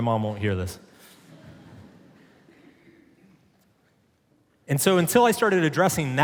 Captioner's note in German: Publikum lacht